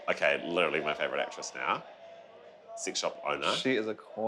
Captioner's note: none